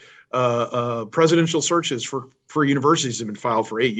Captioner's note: chuckles